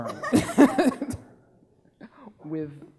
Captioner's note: laughing